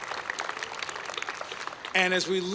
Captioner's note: applause